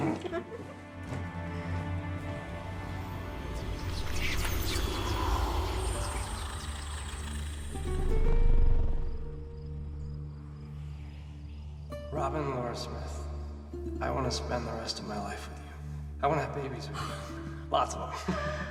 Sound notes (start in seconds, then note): 0.0 Robin laughing; 3.5 wind rushing; 4.0 ominous whispering; 8.2 mysterious string music; 18.1 laughs; 18.4 Robin gasps